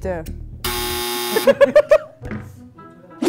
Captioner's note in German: Lachen